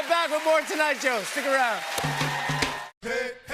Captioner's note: cheers and applause